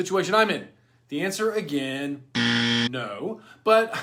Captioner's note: buzzer ringing